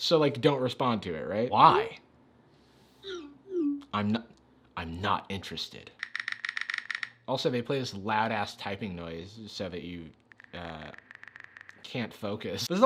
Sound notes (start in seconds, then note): 6.0 typing sound